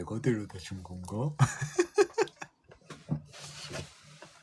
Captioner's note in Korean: 웃음